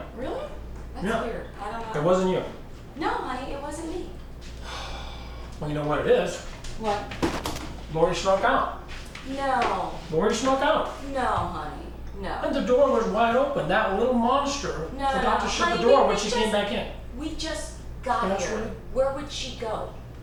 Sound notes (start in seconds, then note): 4.7 sigh